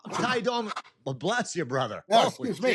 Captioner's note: sneezes